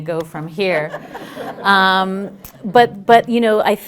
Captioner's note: laughter